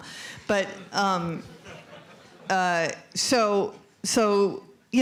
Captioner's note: laughter